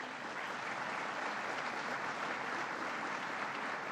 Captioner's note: applause